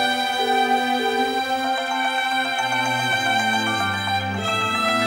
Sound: mobile ringing

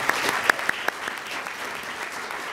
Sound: applause

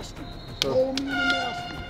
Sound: airhorn

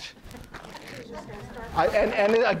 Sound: audience talking, laughing

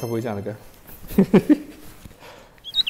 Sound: hehehe

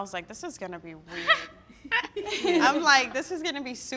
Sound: all laugh

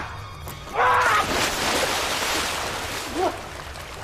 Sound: Kafi screams; water splashing

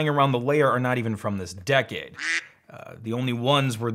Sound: duck quacks

